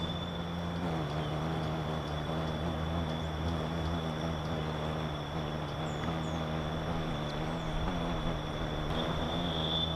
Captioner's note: birds chirping; buzzing